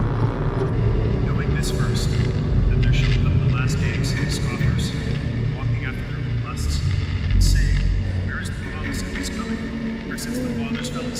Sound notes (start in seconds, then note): 1.3 haunting voice